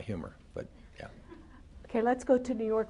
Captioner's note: laughter